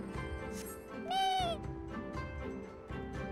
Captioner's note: meow